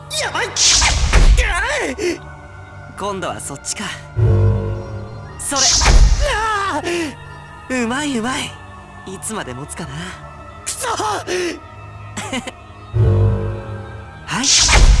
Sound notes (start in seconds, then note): 1.8 effort grunt; 6.1 struggling groan; 12.6 chuckle